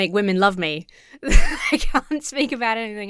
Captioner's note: laughs